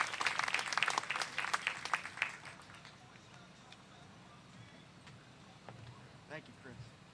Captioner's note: applause